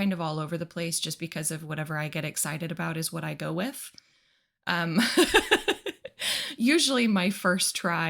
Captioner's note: laughs